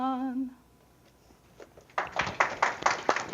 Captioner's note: applause